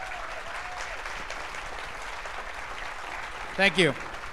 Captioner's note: applause